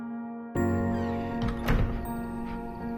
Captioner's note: door squeaks closed